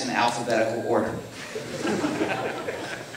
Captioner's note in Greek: Γέλια από το ακροατήριο